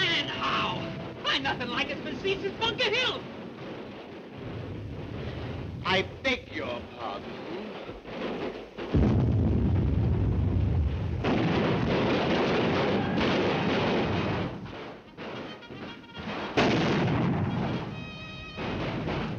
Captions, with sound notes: - And how! Probably nothin' like it's been seen since Bunker Hill! - I beg your pardon! (artillery booming) (bugle music)